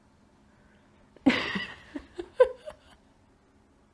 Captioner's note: giggles